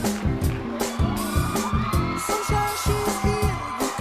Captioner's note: applause